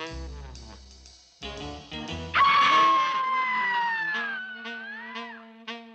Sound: screaming

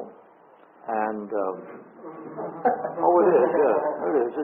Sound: audience laughs

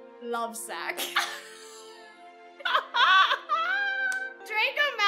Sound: both laugh

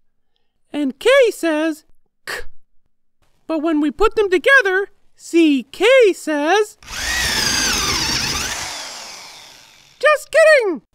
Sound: drill sound

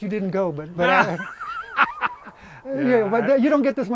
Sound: laughs

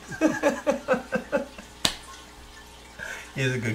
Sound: laughing

